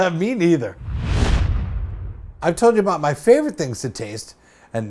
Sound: swoosh

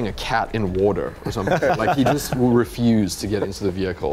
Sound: laughing

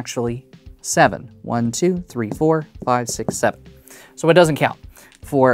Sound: tapping dominoes

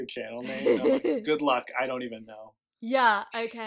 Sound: laughs

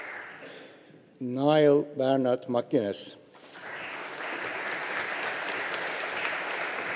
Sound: audience applauding

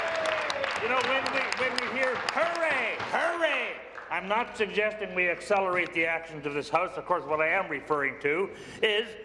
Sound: applause

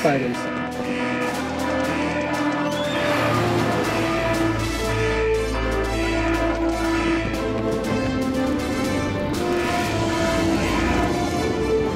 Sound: alarm

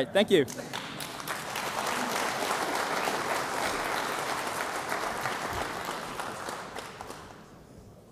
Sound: applause

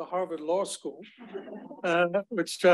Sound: crowd laughs

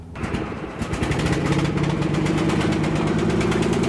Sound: lawn mower engine starting

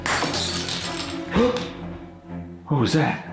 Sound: shell smashes; gasps

